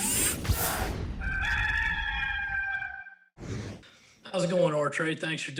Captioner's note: rooster crowing